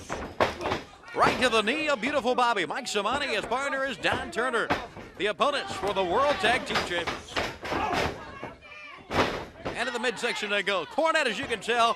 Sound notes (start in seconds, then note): 4.2 crowd chatter